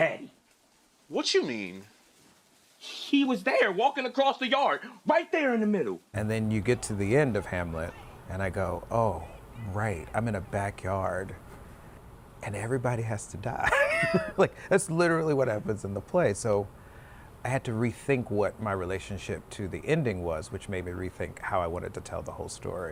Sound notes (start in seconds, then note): 13.6 laughter